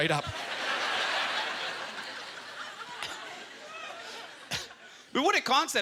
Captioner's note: audience laughter